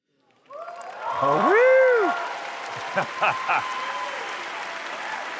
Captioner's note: cheering